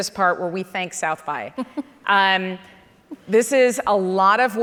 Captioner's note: chuckles